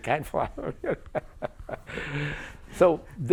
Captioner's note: laughter